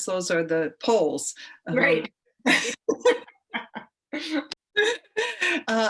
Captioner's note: women laugh